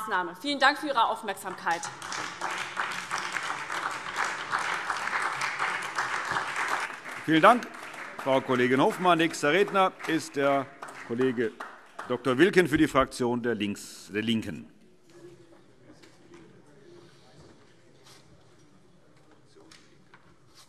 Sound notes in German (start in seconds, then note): 3.0 Beifall SPD